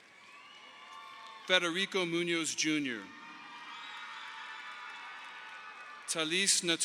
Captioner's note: audience applauding